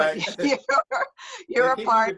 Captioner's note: laughs